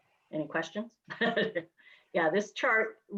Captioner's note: giggles